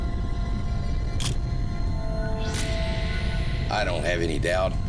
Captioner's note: camera shuttle click